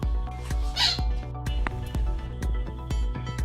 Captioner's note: squeak; upbeat music